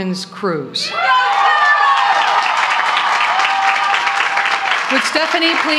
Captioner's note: applause